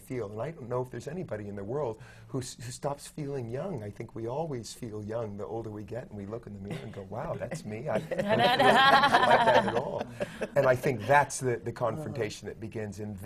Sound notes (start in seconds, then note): 7.8 laughter